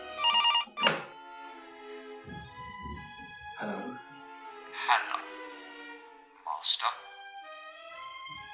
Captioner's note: phone ringing; picking up phone